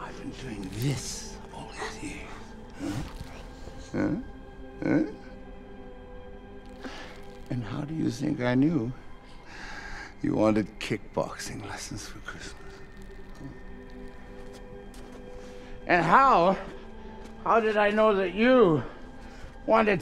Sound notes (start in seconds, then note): 1.7 Alice gasps; 2.2 plastic crinkles